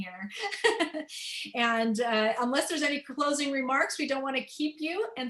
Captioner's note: laughter